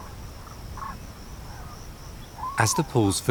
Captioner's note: birds chirp